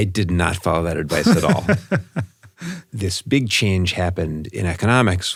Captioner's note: laugh